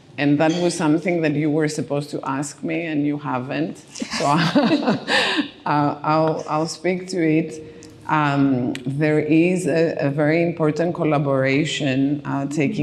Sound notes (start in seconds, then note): 4.0 laughing